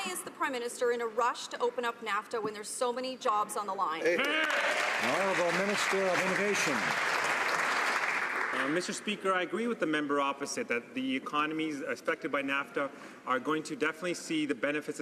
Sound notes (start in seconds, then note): 8.8 some Applause